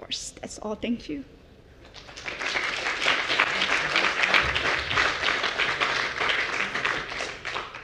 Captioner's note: applause